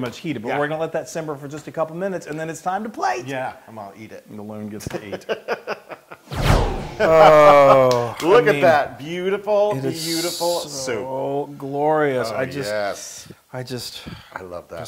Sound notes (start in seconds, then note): 6.9 laugh